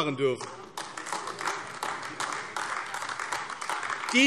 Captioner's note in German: Beifall AfD